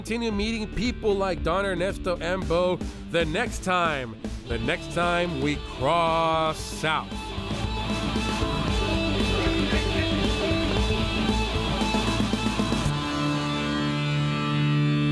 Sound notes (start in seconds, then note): 10.7 horse sound; 12.5 theme music